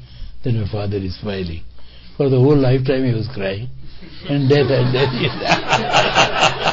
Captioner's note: laughter